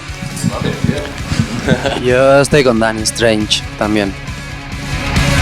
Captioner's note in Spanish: Risas